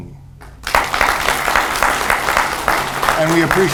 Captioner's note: audience applauds